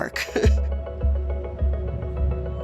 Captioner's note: chuckles